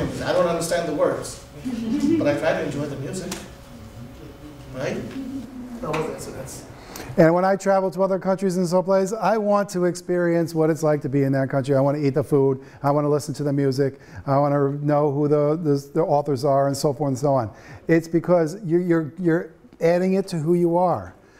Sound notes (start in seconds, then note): 1.6 students laughing